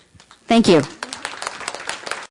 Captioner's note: applause